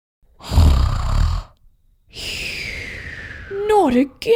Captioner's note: snoring!